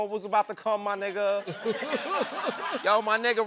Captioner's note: laughter